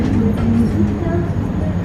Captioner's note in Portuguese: som do carrossel